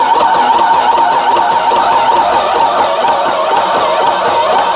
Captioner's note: sprayer whirring